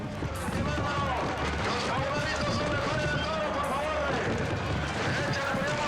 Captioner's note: announcer shouting in foreign language